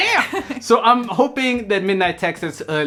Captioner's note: Sandrine laughing